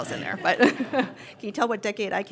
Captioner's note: laughter